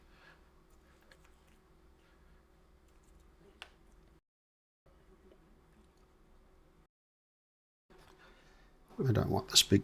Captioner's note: silence